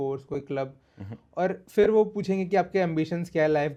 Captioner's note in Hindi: नाक से की जाने वाली आवाज़